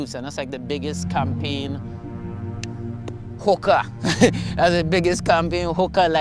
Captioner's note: laughs